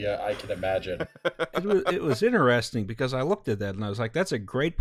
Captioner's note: laughter